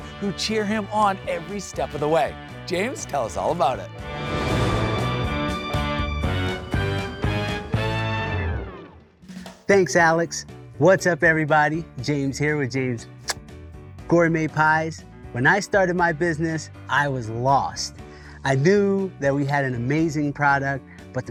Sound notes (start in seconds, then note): 2.6 upbeat music; 13.2 smooches